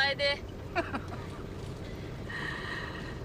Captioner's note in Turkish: Gülme sesi